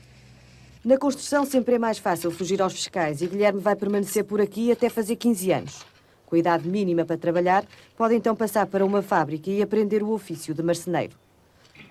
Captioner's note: speaking portugese